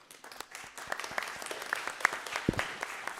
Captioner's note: applause